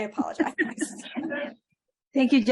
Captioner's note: laughter